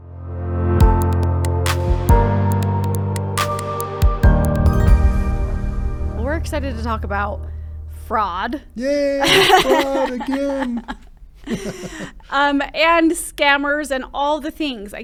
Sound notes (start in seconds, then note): 0.2 inspiring music; 9.2 laughing